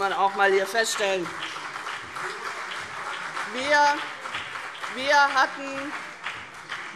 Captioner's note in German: Beifall CDU und BÜNDNIS 90/DIE GRÜNEN - Zuruf Freie Demokraten